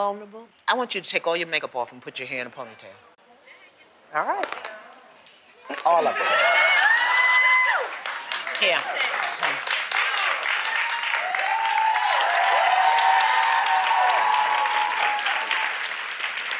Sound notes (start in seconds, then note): 6.3 cheering; 7.7 applause; 12.3 cheering; 13.2 applause